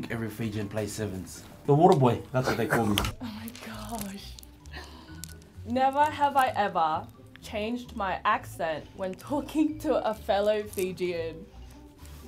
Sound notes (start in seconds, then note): 2.9 both chuckles; 4.6 gasps